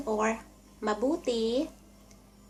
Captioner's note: Tagalog